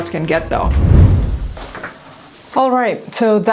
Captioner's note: air whooshing